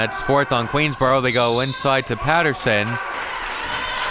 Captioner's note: whistle blows; audience clapping